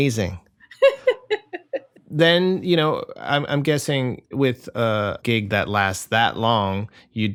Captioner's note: laughter